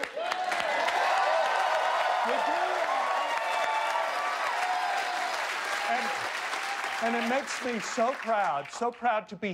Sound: cheers and applause

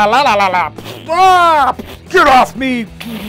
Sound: making gibberish noises

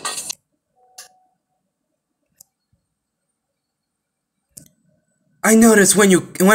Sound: silence

